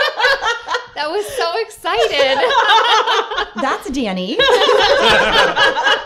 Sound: laughter; laughter

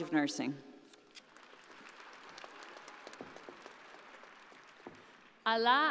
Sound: audience applauding

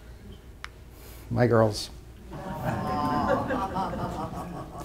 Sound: awes

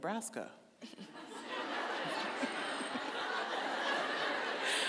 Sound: audience laughing

